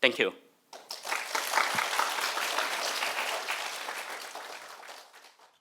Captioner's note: audience applauding